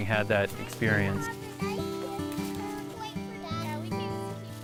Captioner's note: children's chatter